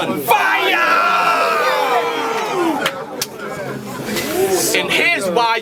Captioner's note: crowd Reaction